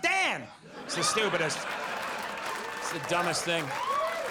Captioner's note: audience laughs